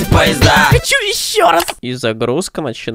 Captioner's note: clicks